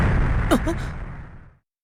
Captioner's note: gasp